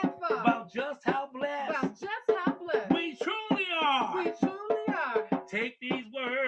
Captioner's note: echoing